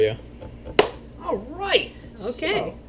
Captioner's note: claps